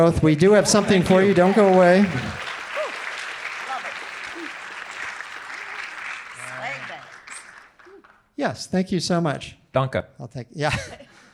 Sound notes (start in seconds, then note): 2.3 audience applauding; 10.2 laughs